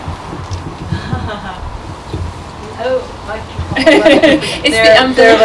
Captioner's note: laughter